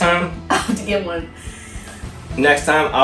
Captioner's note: laughs